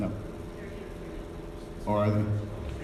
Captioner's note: woman speaks faintly